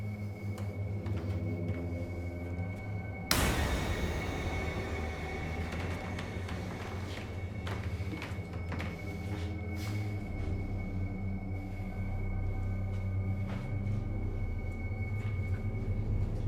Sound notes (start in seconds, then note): 3.4 light switch clicking